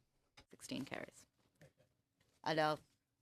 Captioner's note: speaking French